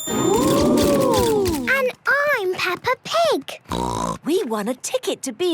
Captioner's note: snort